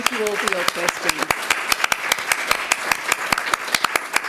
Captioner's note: applause